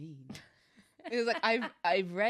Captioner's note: laughs